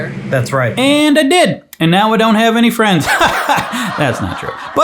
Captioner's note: laughs